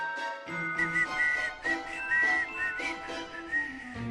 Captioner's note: whistles